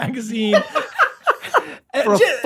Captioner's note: Rob laughs